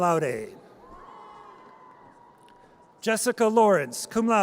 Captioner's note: audience cheers